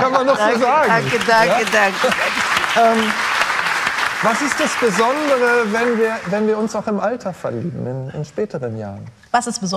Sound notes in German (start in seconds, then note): 0.6 Applaus